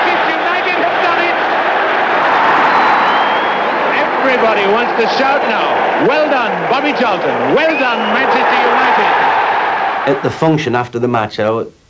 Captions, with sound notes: Manchester United have done it. [crowd shouting] Everybody wants to shout now. Well done, Bobby Charlton. Well done, Manchester United. - At the function after the match,